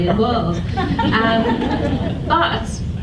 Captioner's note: audience laughs